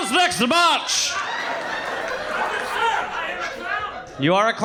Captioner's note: audience laughing